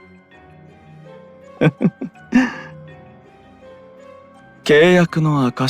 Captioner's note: laugh